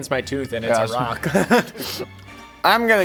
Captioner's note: laughing